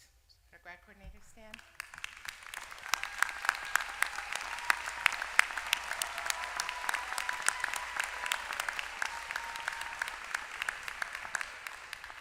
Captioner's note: applause